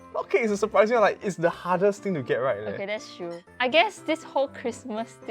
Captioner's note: none